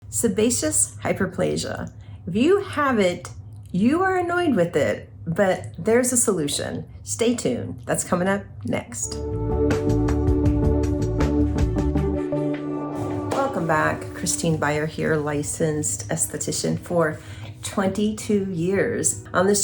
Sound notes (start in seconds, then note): 9.0 upbeat music; 12.9 screen whooshes